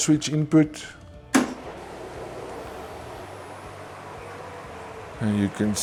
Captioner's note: pump starting